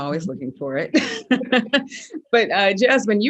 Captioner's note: laughs